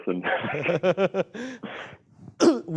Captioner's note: both laugh